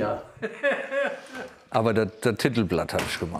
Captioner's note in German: Der Vater lacht